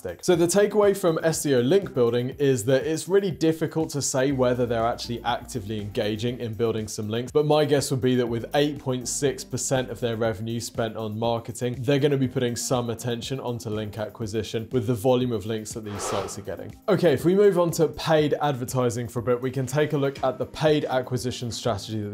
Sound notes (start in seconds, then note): 15.8 screen wipe whooshes